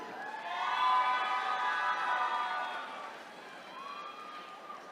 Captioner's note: attendees cheering